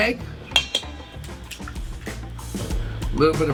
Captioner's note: egg taps